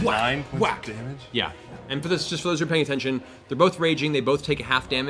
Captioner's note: whack, whack